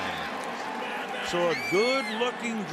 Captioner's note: pa announcement